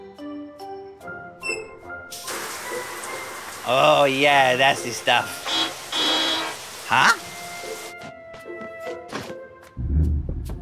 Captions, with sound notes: Oh, yeah, that's the stuff. [honking] Huh?